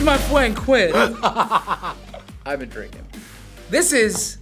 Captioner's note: laughs